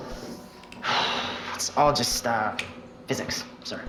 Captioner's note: exhale